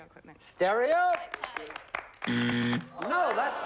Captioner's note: buzzer